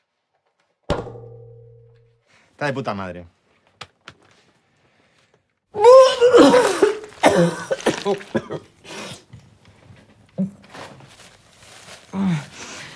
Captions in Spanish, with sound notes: Está de puta madre. (VOMITA)